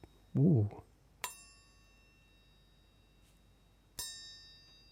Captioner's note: ting